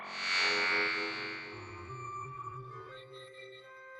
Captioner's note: soft static noises